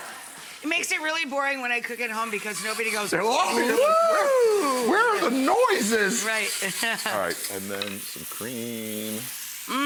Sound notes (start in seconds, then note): 6.6 laughs